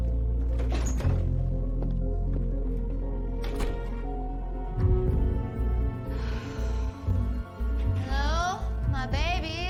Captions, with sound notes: [door opens, closes] [exhales] Hello? My babies?